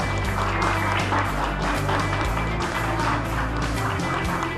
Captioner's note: clapping